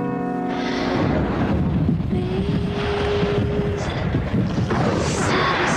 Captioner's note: thunder rumbles